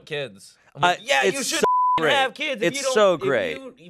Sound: beep

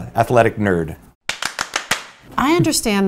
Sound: claps

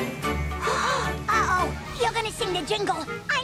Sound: Minnie and Daisy gasp

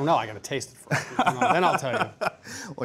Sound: laughing

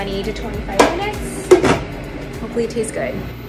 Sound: lid clunks; ice cream maker churns

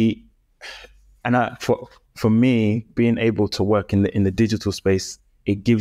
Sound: sighs

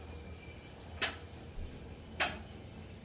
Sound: noise - kitchen work

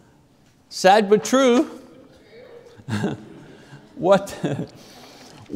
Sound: laughs

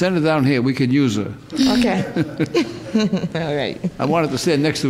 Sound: all softly chuckling

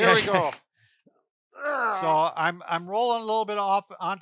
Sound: groans

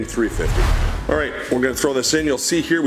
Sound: whooshing

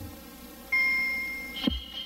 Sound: ding

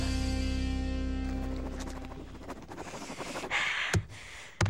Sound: scribbling furiously

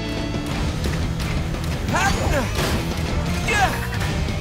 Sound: grunting

